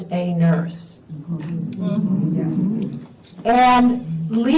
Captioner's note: audience murmuring